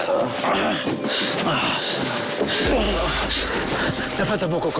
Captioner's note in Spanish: Quejidos